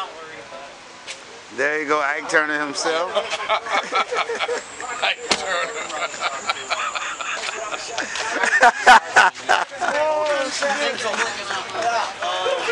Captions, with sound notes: There he go, Ike Turner himself." Laughter." "Ike Turner." (laughter) Ha-ha-ha-ha,